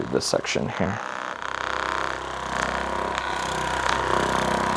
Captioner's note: motor rumbling